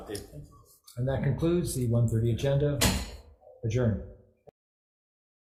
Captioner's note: gavel bangs